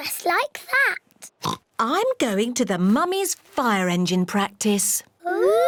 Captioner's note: oinks